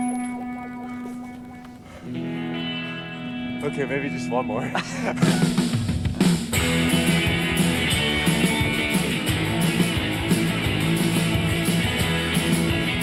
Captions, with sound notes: Okay, maybe just one more. (both laughing) (upbeat music)